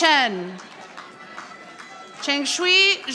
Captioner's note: audience applauding